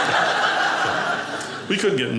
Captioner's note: audience laughing